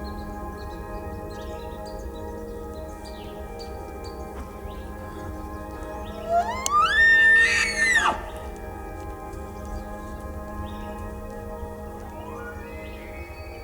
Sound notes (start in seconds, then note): 5.7 elk bugling